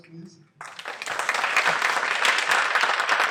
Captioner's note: applause